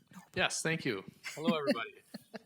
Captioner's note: laughing